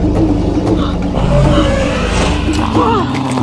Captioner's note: dinosaur growling continues